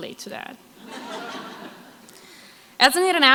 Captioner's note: crowd laughs